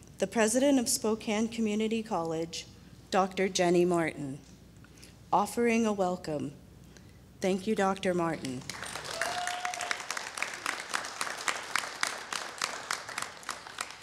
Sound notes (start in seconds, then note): 8.6 audience claps